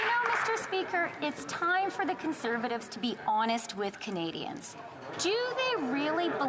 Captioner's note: applause